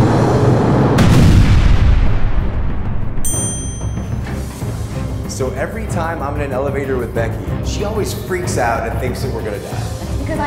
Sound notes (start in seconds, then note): 0.2 ominous music; 3.2 bell rings